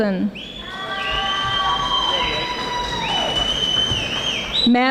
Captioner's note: audience applauding